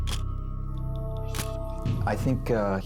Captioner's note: camera shutter click